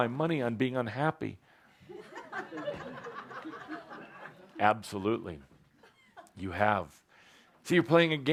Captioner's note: laughter